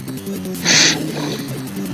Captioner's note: laugh